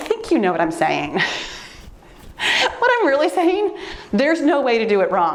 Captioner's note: laughs